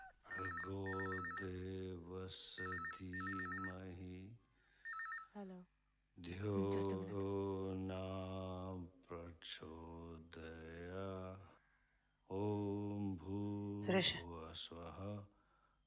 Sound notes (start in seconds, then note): 0.1 phone ringing; 6.5 humming